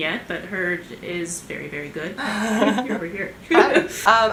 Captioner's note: laughter